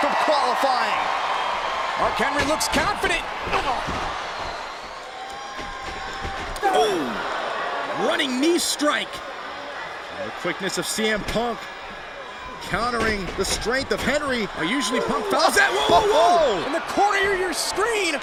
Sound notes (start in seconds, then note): 16.2 laugh